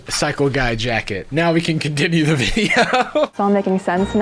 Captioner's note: laughing